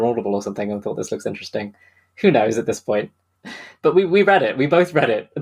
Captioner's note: laughs